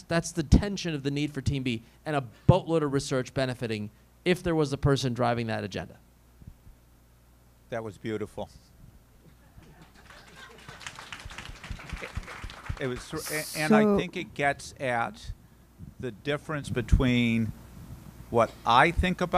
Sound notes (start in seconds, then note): 9.6 applause